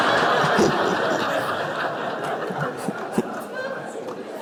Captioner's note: congregation laughs; Eckhart laughs